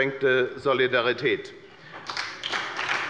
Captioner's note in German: Beifall bei der FDP, der CDU und der SPD